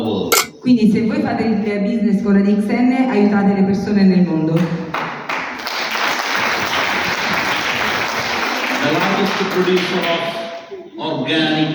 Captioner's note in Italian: Applauso